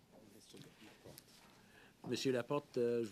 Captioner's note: speaking French